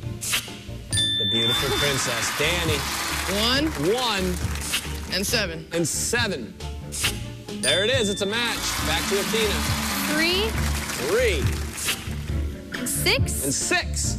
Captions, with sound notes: [chime] THE BEAUTIFUL PRINCESS. DANNY. - 1. - 1. - AND 7. - AND 7. THERE IT IS. IT'S A MATCH. BACK TO ATHENA. - 3. - 3. - AND 6. - AND 6.